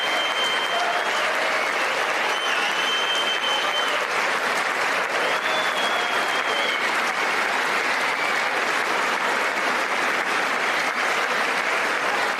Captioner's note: applause